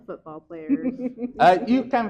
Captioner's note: chuckles